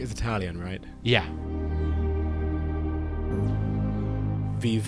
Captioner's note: voiceover